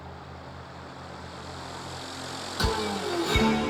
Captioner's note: engine purring